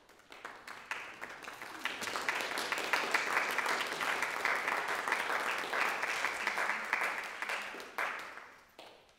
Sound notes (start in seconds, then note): 0.0 audience applauding